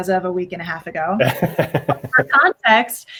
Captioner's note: laughs